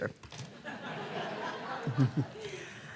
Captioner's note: laughter